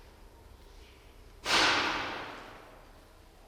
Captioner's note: sound of impact